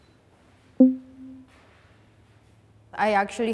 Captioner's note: graphic beep